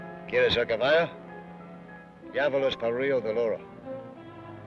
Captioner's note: Ben speaks foreign language